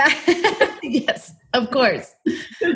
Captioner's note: laughs